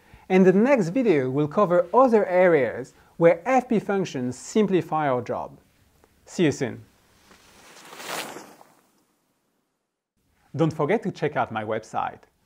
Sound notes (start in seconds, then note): 7.0 air whooshing